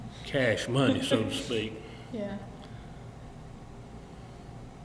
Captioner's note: laughs